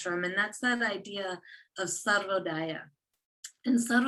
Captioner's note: non-english speech